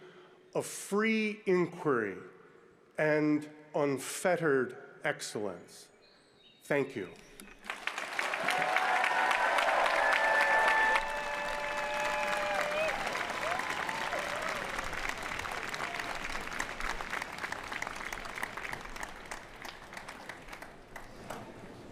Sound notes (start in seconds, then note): 11.2 applause